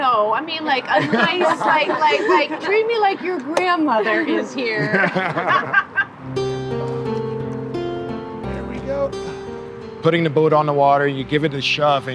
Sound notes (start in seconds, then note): 4.7 laughter